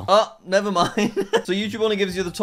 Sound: laughs

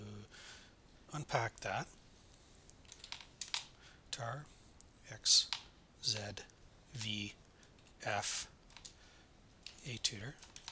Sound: typing

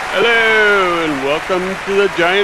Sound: the crowd goes wild

